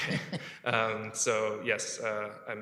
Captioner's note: laughter